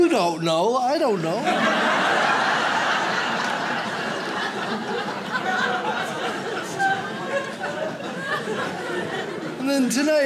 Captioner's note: audience laughs